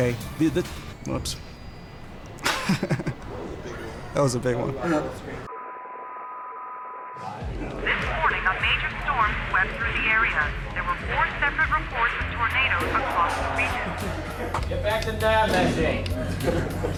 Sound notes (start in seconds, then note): 8.3 laugh